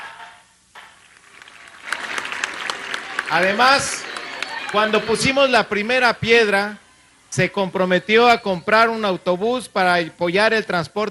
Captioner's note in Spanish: aplausos